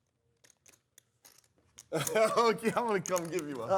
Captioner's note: laughter